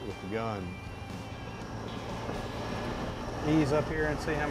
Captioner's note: motor